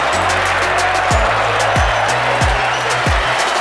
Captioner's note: crowd cheers